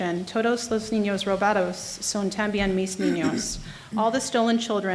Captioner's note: speaking in foreign language